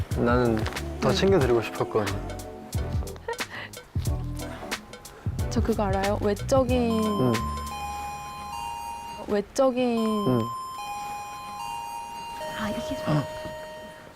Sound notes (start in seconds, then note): 7.9 The bell rings to signal the end of the 10 MINUTE TALK